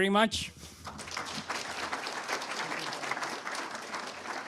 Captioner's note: audience applauding